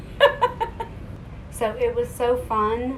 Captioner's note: laughs